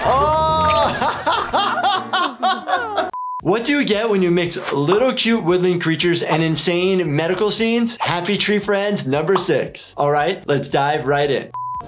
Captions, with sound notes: - Oh (laughing) What do you get when you mix little cute woodland creatures and insane medical scenes? Happy Tree Friends number six. All right. Let's dive right in.